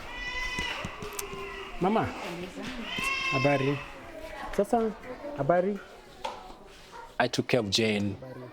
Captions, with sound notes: - Mama, [speaking in foreign language]. I took care of Jane.